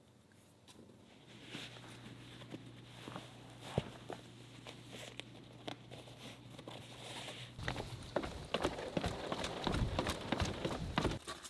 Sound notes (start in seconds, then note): 1.9 rustling; 7.5 footsteps